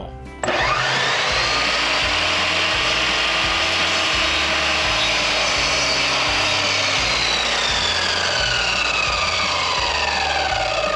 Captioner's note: more saw noise